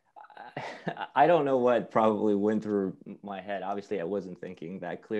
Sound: laugh

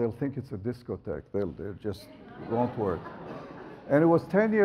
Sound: audience laughs

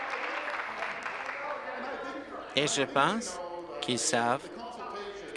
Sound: applause

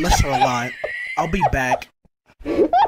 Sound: muffled laughter

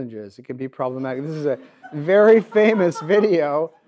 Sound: audience laughs

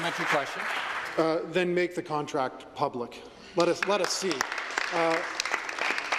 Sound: applause

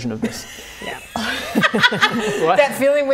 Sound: laughing

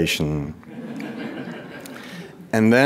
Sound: audience laughing

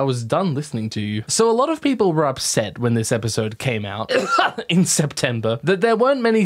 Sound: fake cough

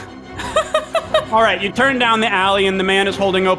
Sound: laughing

